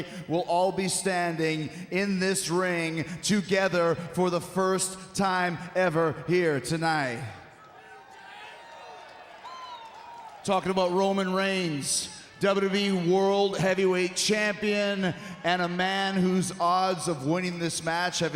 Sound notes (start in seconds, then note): 7.6 crowd shouts